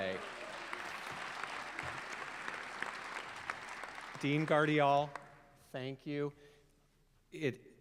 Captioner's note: applause